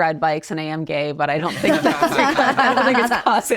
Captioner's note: all laugh